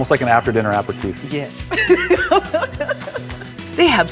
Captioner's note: laughs